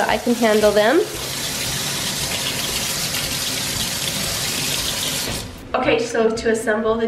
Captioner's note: water splashing